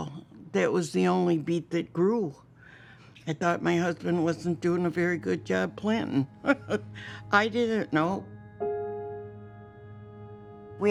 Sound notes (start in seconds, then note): 6.5 chuckles